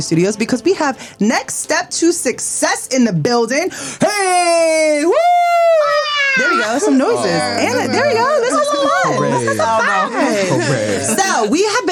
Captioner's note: excited noises